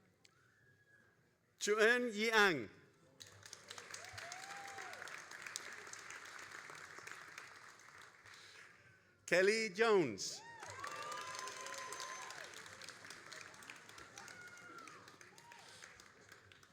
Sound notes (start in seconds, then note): 3.2 all applauding and cheering; 10.3 all applauding and cheering